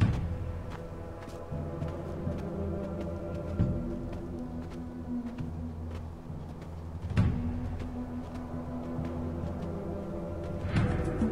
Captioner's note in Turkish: Ayak Sesleri